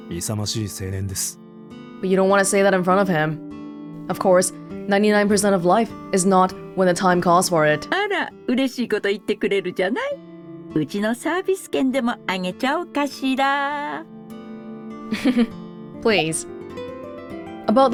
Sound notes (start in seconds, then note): 15.1 chuckles